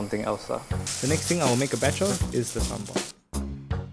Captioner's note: voiceover